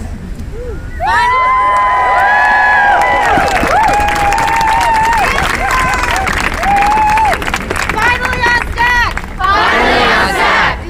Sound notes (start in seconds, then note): 1.8 crowd cheers